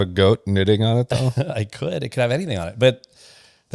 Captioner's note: laughs